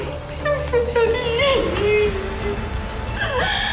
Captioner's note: crying